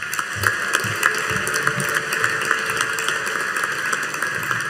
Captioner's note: audience applauding